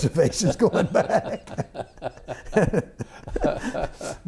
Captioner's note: laughter